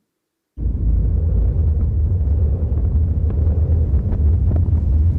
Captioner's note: graphic booming